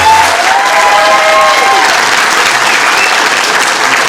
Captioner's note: applause